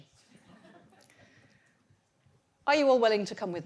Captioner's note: audience laughs